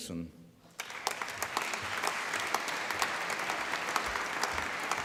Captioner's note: applause